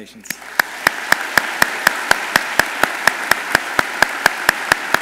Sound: audience applauds

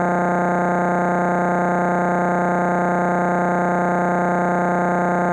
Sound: electronic buzzing continues

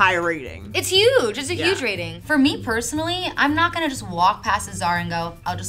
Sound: graphics whooshing

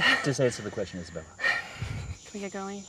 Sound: Isabella sighs

